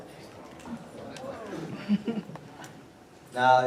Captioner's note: laughter